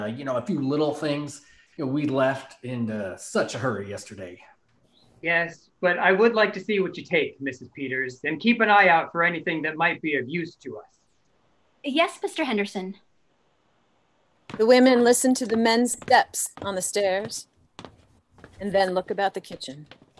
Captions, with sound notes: and a few little things. We left in such a hurry yesterday. - Yes, but I would like to see what you take, Mrs Peters, and keep an eye out for anything that might be of use to us. - Yes, Mr Henderson. (footsteps) - The women listen to the men's steps on the stairs, then look about the kitchen.